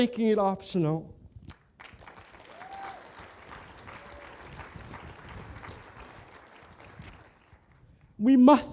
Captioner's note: applause